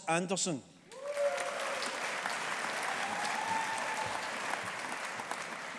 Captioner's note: audience applauding